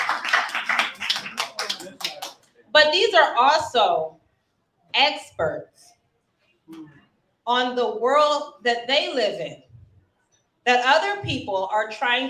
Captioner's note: cheering and applauding